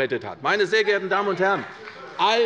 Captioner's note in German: Beifall bei der CDU